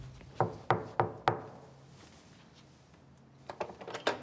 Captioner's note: hand knocking; door clattering